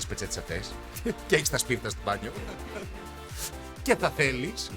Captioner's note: laughs